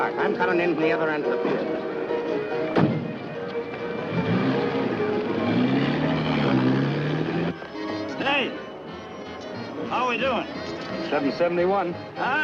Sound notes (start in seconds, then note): 2.7 car door thudding; 3.7 lively music